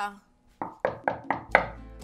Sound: knock at the door

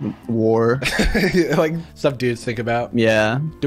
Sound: laughs

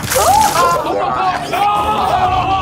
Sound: contestants shouting; yelping

